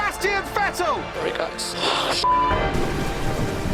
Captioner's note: Vettel radio